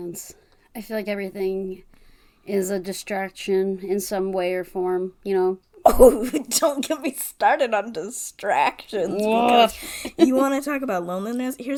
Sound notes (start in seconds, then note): 5.9 laughs